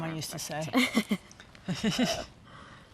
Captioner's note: giggles